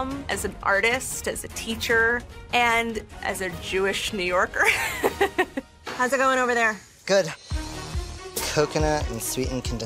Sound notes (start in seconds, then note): 4.6 laughs